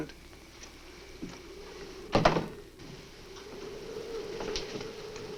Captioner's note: wind howling